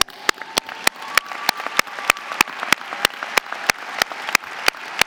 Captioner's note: audience applauding